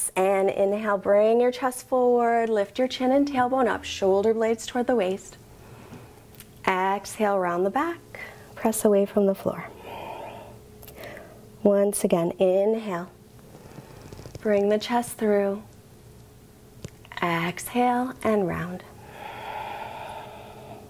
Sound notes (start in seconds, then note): 19.0 deep breath